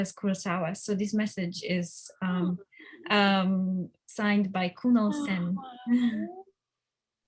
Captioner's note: chuckles